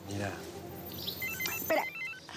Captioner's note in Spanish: suena el celular